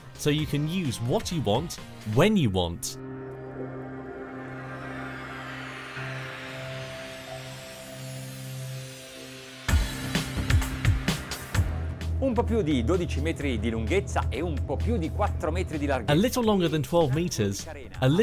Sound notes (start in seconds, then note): 3.2 funky music; 12.3 man speaks in foreign language